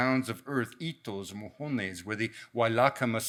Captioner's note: speaks in a foreign language